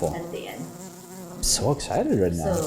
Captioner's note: buzzing sound